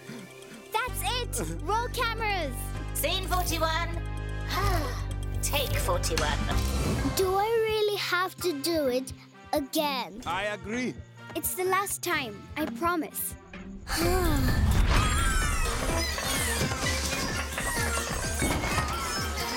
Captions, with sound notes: -That’s it! Roll cameras! -[Tobor sobbing] Scene 41. [sighs] Take 41! Do I really have to do it, again! I agree. It’s the last time, I promise. [sighs] [Bongolalas chattering] Ooo! Pop! Pop! Popcorn!